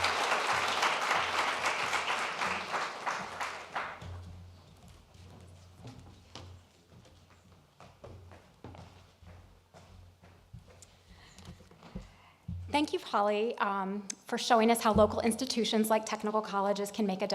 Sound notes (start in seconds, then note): 4.2 applause